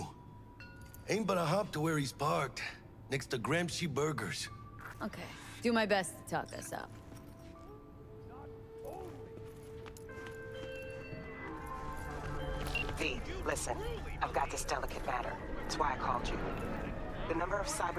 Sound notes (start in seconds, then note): none